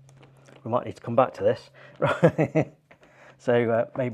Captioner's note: laughs